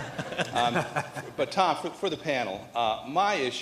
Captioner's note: laughter